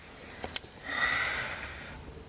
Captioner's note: le sigh